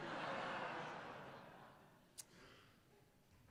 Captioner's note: laughter